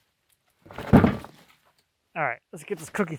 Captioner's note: wood thuds